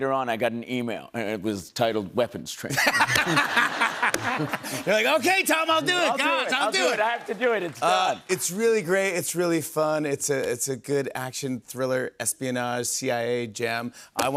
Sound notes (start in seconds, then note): 2.7 laughter